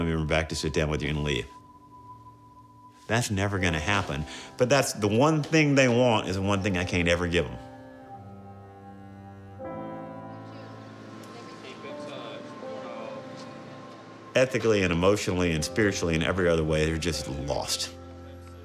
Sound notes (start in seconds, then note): 10.4 indistinct conversation